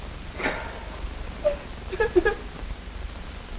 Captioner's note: crying